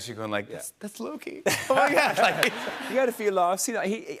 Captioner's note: laughter